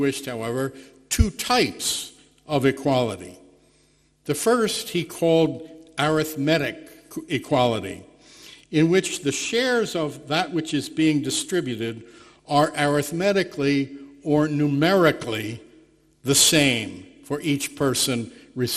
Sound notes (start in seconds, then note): none